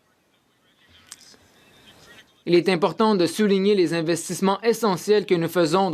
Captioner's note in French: voix de l'interprète